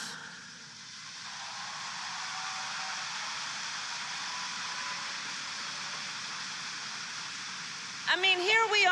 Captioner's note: applause